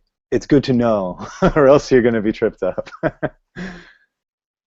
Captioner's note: laughing